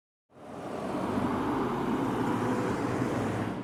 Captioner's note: traffic sounds